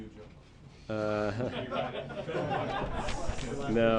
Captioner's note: laughter